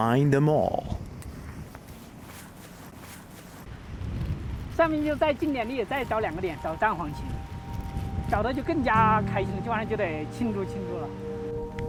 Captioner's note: speaking Chinese